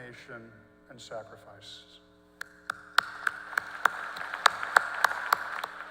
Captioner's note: applause